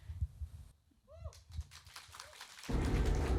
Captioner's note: applauds and cheers